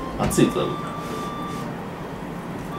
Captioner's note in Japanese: フーフー